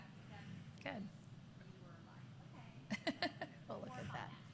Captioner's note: laughter